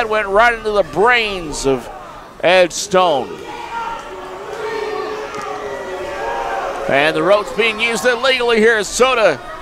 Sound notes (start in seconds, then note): 3.3 crowd jeers; 3.3 shouts at crowd